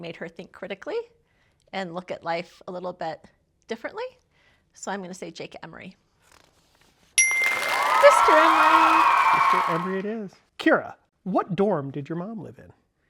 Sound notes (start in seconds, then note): 7.2 chime; 7.2 audience cheering